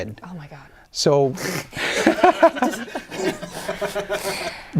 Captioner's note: laughter